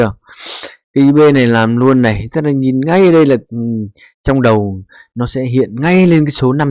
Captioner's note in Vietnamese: khịt mũi